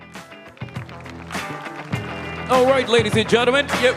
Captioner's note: crowd applauding